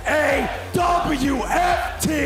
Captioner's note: crowd cheering